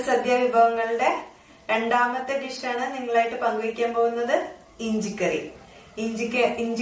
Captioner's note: in malayalam